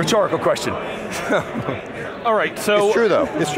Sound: laughs

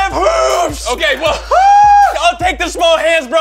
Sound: screams

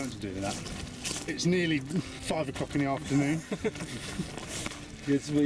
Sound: laughs

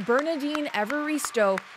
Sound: applause

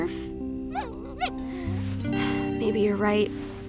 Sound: Murph whines

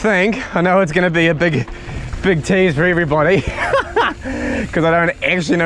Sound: laughs

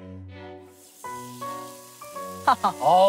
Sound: sizzling

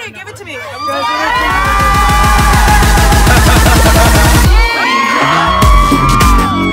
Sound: screaming

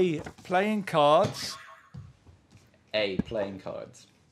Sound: boing

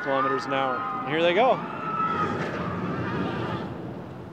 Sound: passengers scream

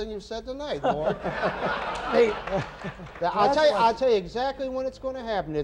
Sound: laughter

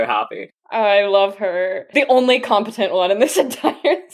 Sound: laughing

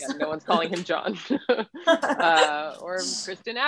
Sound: laughs

